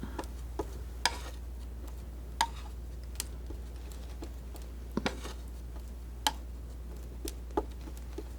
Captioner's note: scratching